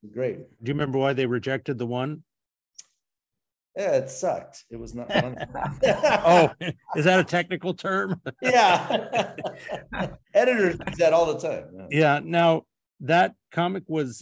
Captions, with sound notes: Do you remember why they rejected the one? It sucked. It was not... [all laughing] Oh. Is that a technical term? Yeah. [laughs] Editors use that all the time. Yeah. Now, that comic was